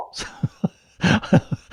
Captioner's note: laughing